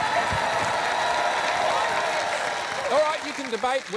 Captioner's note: applause